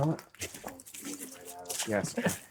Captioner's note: voices mumbling